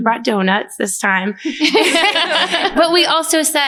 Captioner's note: laughter